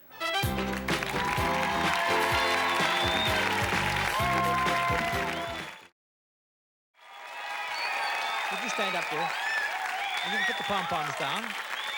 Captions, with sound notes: (theme music playing) (cheers and applause) -Would you stand up girl and you can put the pom-poms down.